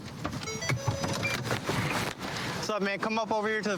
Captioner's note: car notification bell dings